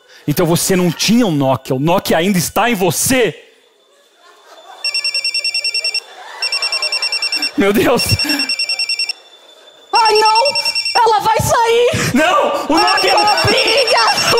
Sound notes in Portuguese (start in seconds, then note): 4.8 telefone